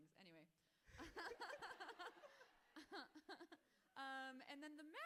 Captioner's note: both laughing